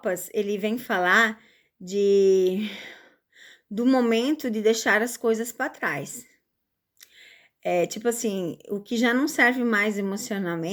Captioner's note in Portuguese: suspirando